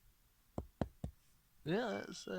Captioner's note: knock Knock Knock